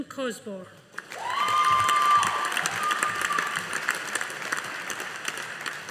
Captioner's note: audience applauding